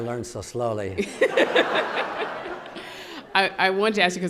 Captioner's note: audience laughing